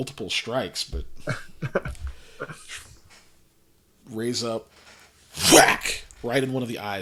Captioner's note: laughs